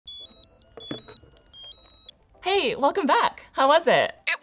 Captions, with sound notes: (phone ringing) - Hey, welcome back. How was it?